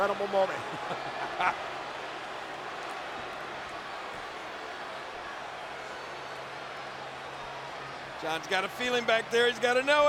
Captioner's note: applause